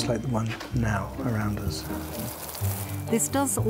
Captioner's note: water hissing